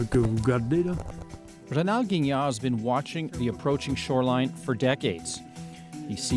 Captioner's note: speaking french